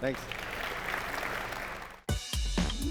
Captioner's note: applause